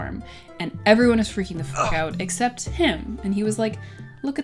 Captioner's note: grunt